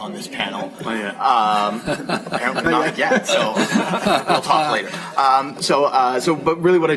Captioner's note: laughter